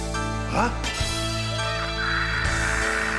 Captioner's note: מתנשף; צווחות